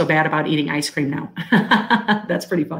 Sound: laughing

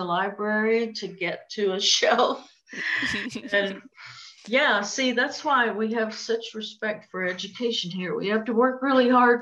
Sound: laughter

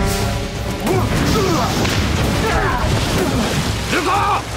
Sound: grunting

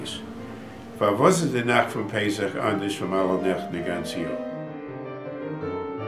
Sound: Yiddish

